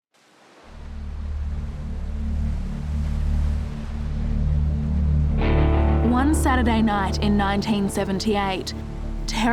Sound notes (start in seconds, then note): 0.2 waves whooshing; 0.7 suspenseful music